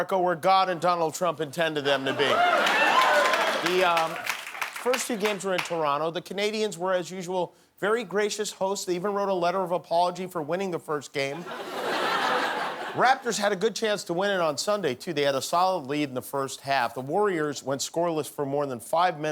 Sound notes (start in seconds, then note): 1.9 cheering; 11.3 laughter